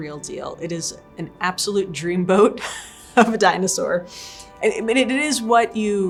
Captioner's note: laughs